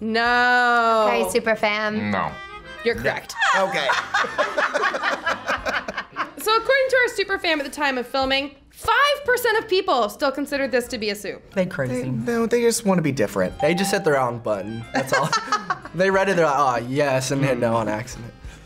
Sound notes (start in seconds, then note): 3.2 both laugh; 13.6 bell rings; 14.9 laughs